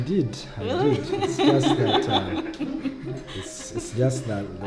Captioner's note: laughter